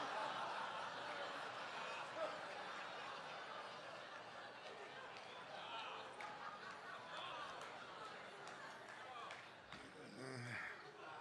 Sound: congregation laughing

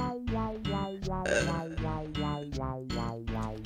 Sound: groan Noise

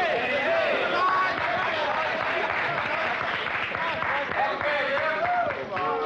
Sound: players cheering

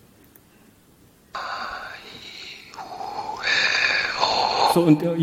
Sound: whisper-Like Audio Recording

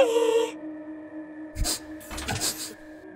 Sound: sniffing

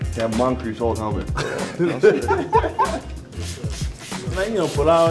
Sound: laughing

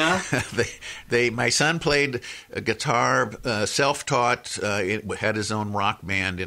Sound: laughs

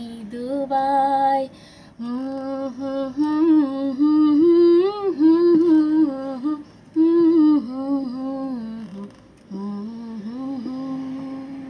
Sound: humming to the tune

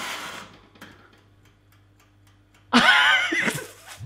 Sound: timer ticking; wheezing laugh

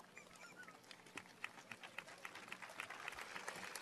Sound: applause

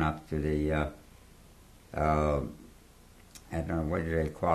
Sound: pauses for 3 seconds

